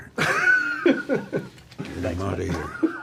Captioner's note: laughs